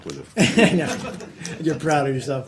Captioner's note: laughter